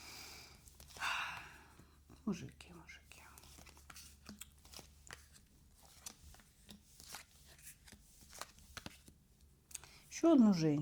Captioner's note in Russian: вздыхает